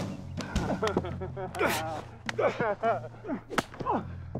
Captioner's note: laughing